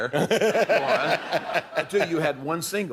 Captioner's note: laughter